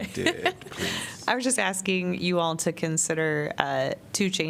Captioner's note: laughter